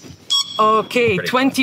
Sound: timer beeps

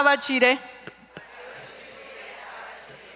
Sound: speaking in Zapotec; crowd repeats

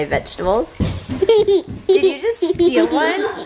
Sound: giggling

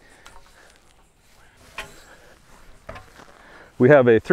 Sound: metal clangs

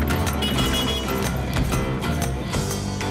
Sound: tractor beeps

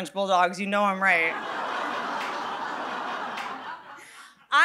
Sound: audience laughing

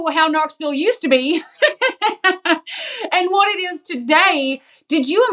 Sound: laugh

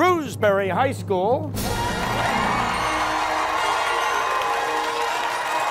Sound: cheers and applause

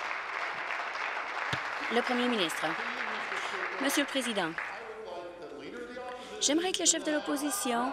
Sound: applause

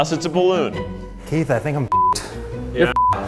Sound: beep

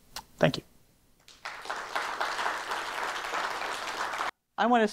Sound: applause

